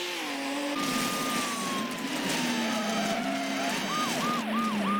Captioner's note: car honking; car slams